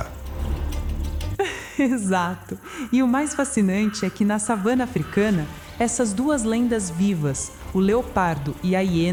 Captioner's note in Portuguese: risos